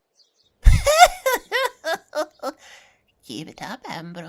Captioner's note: cackle